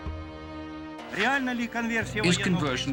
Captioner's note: Mikhail Gorbachev speaking Russian